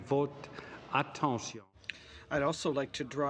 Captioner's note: speaking French